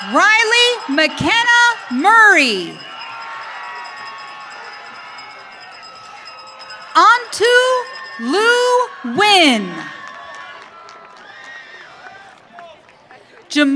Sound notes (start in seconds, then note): 3.4 audience cheering; 10.0 audience cheering